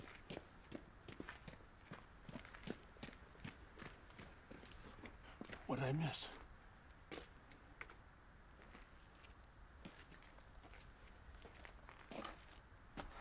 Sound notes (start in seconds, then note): none